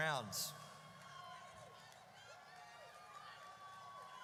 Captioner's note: audience cheers